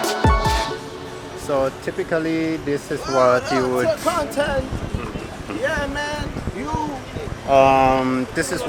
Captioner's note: shouting